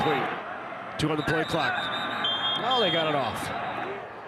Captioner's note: referee blows whistle